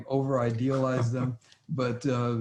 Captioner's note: laughs